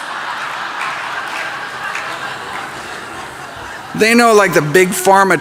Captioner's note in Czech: Smích